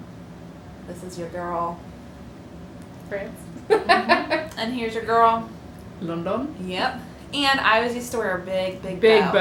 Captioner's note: laughter